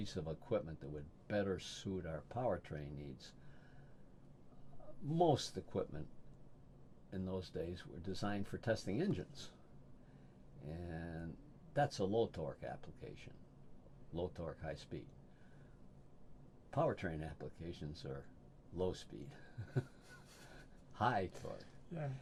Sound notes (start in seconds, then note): 19.5 laughs